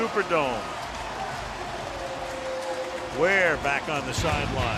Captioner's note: pa announcement